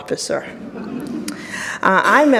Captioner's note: audience laughs